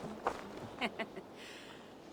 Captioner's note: laughs